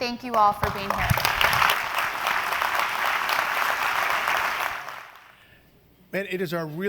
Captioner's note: applause